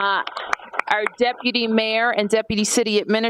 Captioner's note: applause